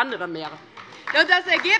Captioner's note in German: Beifall